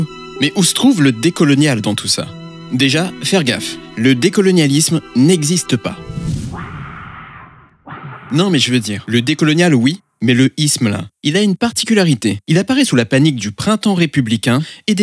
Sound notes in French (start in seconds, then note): 6.4 des cris lointains